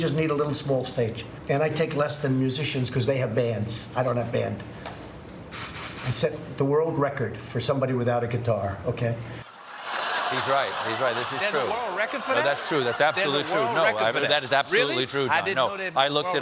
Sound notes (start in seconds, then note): 9.4 laughter